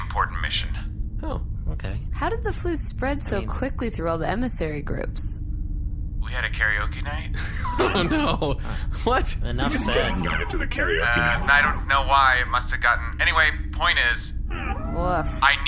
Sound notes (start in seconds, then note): 7.3 laughing